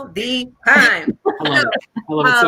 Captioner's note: laughs